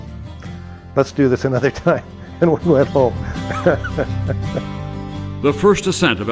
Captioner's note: laughs